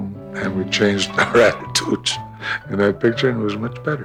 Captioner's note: laughing